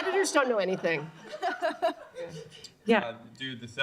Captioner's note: laughter